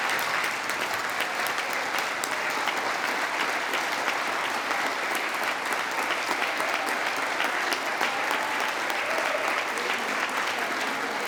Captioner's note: applause